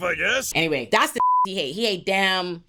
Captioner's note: beep